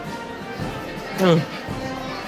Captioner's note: yawn